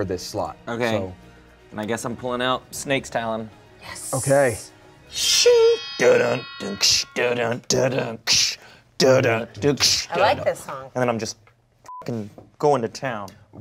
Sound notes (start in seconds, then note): 6.8 vocalizes; 12.2 beep